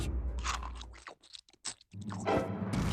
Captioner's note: chomping